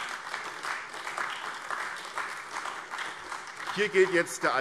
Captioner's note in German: Beifall AfD